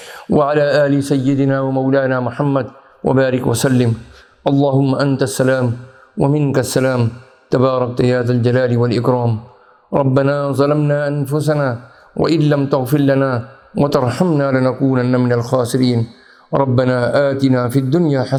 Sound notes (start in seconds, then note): 0.1 arabic